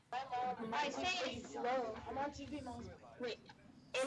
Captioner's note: chattering